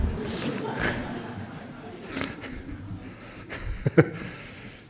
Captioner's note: laughs